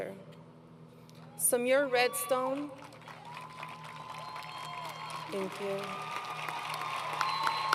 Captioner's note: applause